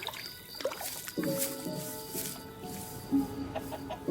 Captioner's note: splashes; more footsteps